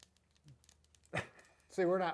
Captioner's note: chuckles